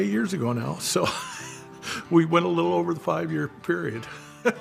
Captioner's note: laughs